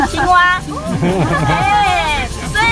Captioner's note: laughs